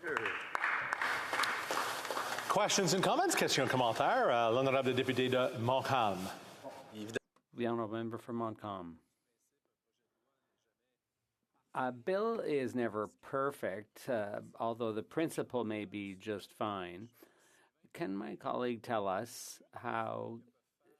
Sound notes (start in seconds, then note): 4.1 some APPLAUSE; 7.9 speaking FRENCH